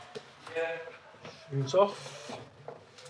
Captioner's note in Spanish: charla confusa